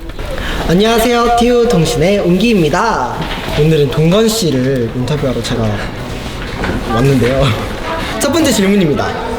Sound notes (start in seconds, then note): 3.5 clapping hands